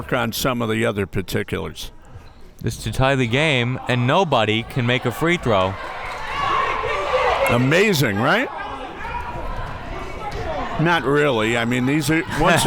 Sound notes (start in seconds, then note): 9.3 crowd members shouting